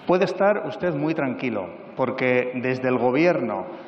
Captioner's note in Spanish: none